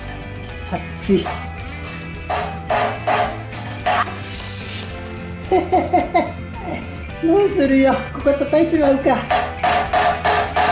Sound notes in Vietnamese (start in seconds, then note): 5.2 cười lớn